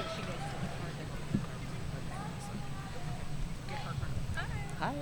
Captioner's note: speaking faintly off mic